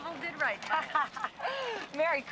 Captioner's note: ladies laughing